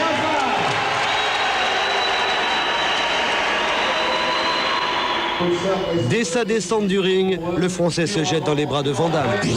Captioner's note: applause